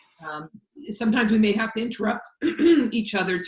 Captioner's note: clears throat